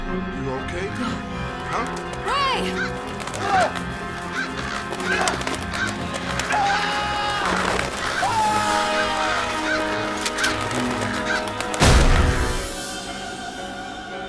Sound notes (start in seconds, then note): 3.4 crows cawing; 8.2 ray screaming